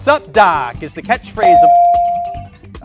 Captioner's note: bell dings